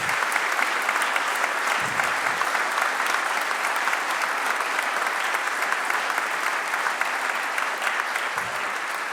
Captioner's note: applause